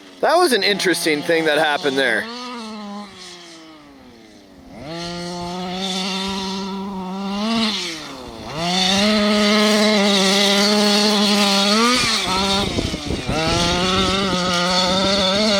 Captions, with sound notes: That was an interesting thing that happened there. (engine roaring)